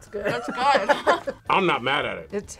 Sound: both laugh

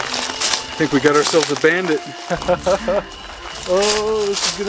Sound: laughs

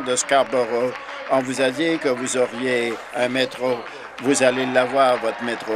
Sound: applause

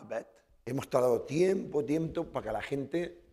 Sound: speaking spanish

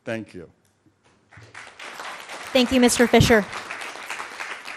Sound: audience clapping

